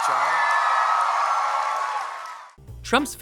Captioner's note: audience cheers